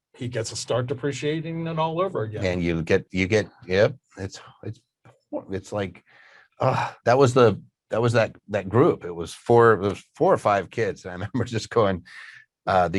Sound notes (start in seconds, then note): 6.6 sighs